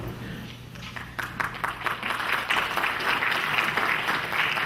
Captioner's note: clapping